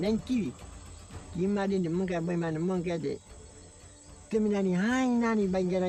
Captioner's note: speaking in foreign language